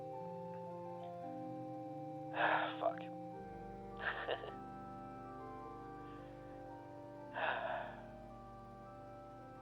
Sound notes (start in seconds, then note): 5.0 sighs